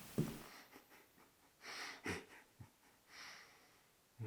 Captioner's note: Jacob chuckling